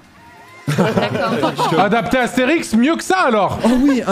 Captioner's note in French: rires